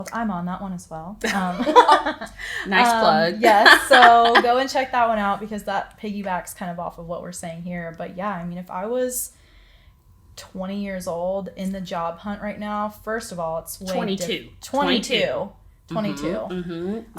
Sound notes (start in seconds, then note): 1.3 laughs; 3.5 laughs loudly